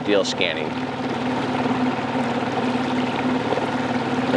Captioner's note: engine rumbling; water trickling